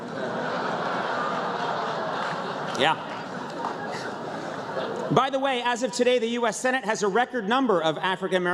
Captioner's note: laughter